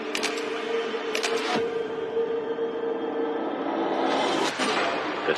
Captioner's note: shutter clicking